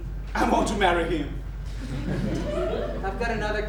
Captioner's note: audience laughs